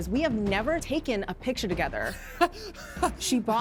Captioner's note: laughing